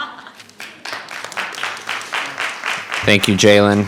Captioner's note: audience laughing; audience applauding